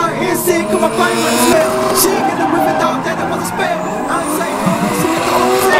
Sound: car engines revving

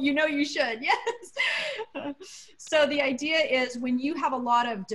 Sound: laughter

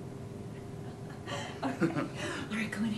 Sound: laughing

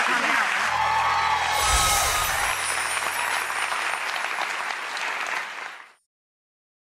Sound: audience cheering and clapping

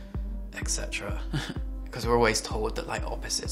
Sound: chuckles

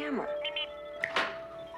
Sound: Steve Trevor snaps his Fingers

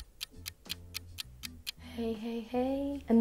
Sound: clock ticking

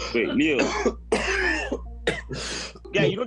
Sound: coughing worsens

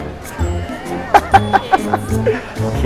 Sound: dramatic music; laughs

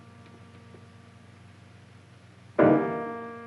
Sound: none

